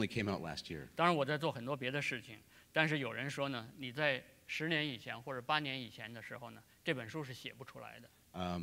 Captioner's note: speaking in Chinese